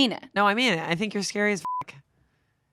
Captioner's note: beep